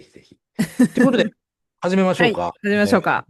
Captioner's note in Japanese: 笑い